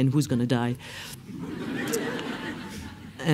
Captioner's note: laughs